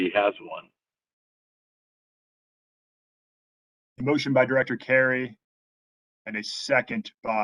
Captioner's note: A pause